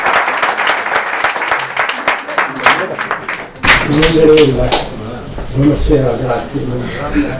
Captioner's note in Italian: applauso